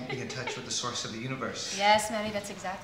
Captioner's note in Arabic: يضحك